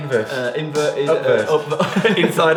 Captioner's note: laughing